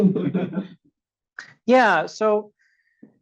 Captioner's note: audience laughs